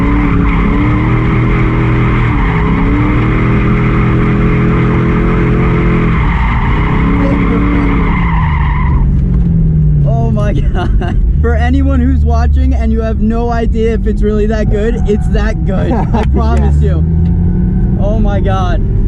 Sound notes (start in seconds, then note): 10.4 through laughter